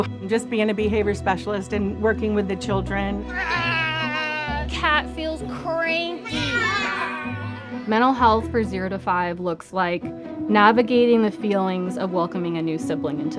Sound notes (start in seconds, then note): 3.3 growling; 6.5 children growling